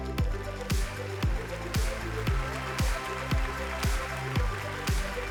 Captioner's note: applause